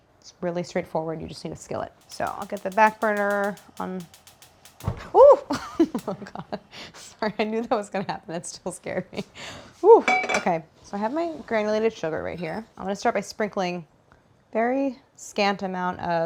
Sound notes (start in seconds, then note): 5.7 laughs